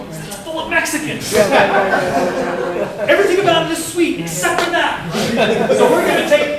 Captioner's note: laughter